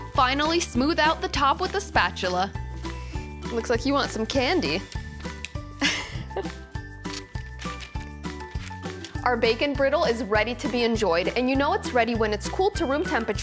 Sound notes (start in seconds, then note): 5.8 laughs